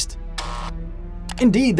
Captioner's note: buzzer